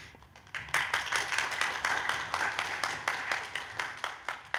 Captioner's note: audience clapping